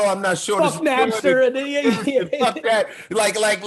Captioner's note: laughing